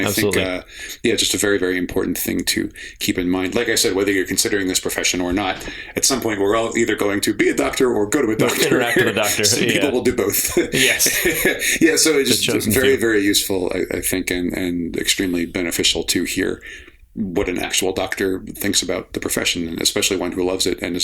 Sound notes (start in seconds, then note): 8.4 laughter